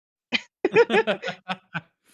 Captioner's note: laughing